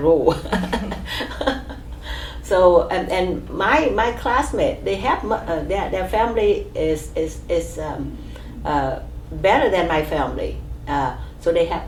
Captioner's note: laughs